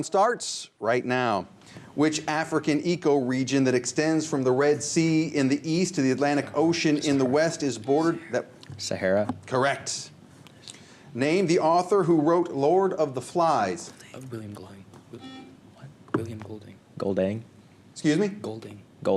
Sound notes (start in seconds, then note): 12.5 whispers; 15.2 buzzer